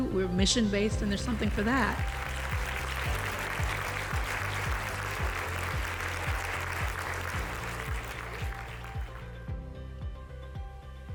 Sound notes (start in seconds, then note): 1.1 audience applauding; 8.4 bright music